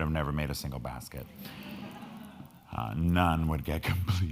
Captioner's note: crowd laughing